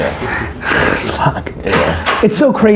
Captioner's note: laughs